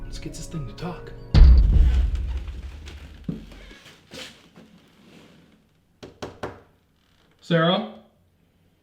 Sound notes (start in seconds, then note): 1.3 pounding at door; 6.0 tapping at door